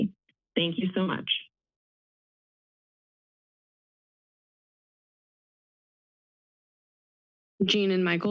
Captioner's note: silence